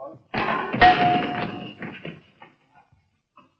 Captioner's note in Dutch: gekletter